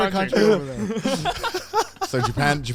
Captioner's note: men laughing